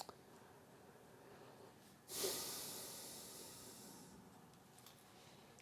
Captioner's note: sniffling